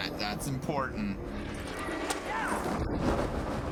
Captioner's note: both whinnying